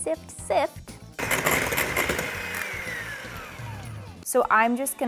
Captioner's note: mixer whirring